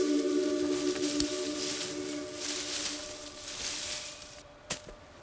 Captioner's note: leaves rustling